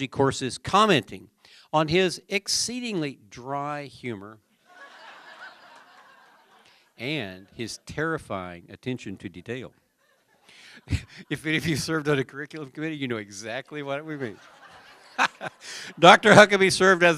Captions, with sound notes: COURSES COMMENTING ON HIS EXCEEDINGLY DRY HUMOR [LAUGHTER] AND HIS TERRIFYING ATTENTION TO DETAIL. IF HE SERVED ON THE CURRICULUM TODAY, YOU KNOW EXACTLY WHAT WE MEAN [LAUGHTER]. DR. HUCKABY SERVED